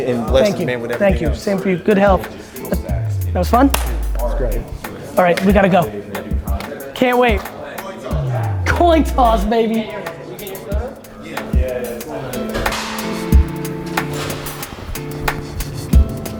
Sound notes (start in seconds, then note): 11.4 crowd talking; 13.7 upbeat music